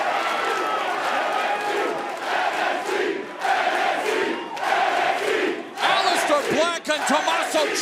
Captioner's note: fans chanting